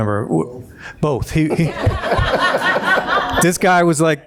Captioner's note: audience laughing